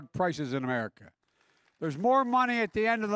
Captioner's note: applause